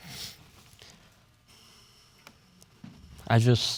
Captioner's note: sniffles